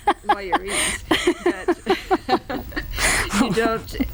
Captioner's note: laughing